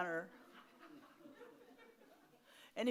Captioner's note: audience laughs